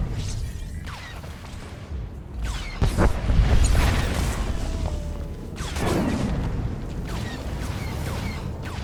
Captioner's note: explosion